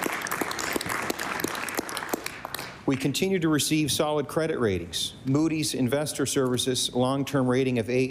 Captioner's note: applause